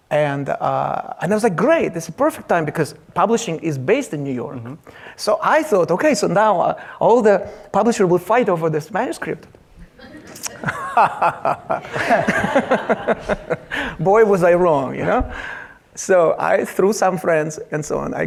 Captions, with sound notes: and I was like, great, this is the perfect time because publishing is based in New York. I thought okay, so now all the publishers will fight over this manuscript. (laughs emphatically) (audience laughs) Boy was I wrong, you know? So, I through some friends and so on,